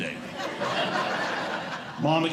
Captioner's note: audience Laughing